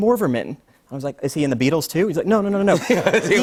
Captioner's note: laughter